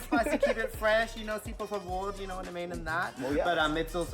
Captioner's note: foreign language